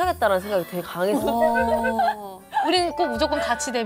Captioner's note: embarrassed laughter